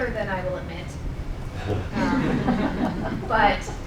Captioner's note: laughing